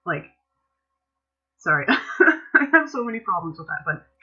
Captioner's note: laughter